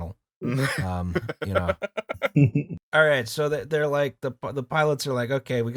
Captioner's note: laughter